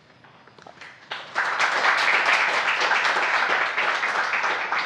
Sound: audience applauds

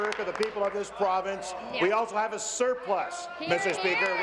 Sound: applause

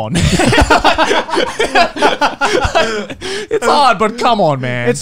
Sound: laughing

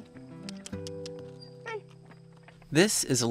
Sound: clicking with mouth

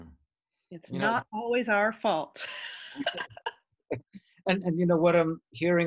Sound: laughs

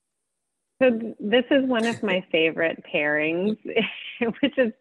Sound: chuckles

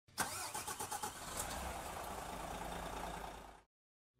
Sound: car engine starting

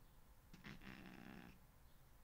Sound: more noises of distress

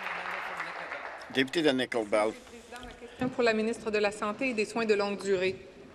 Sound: some Applause

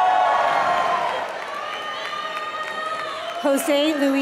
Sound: applause

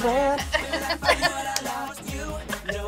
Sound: laughs

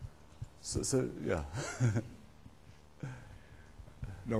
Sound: laughs

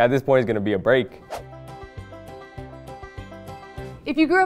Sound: playful, old-timey music; air whooshes

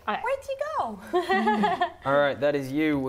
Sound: laughs

